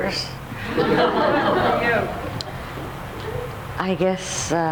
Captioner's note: audience laughs